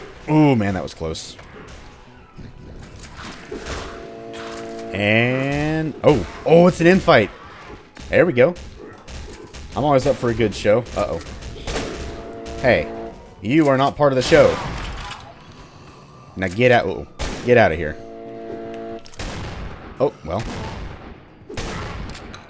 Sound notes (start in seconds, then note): 5.2 chargeup sound; 14.2 bam; 17.2 chargeup, then Boomsticking